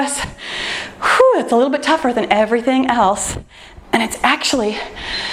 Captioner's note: exhales